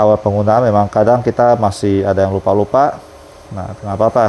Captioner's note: printer machine noise